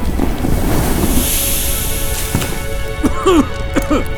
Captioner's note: snow sizzles; coughs